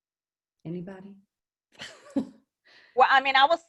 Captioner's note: laughs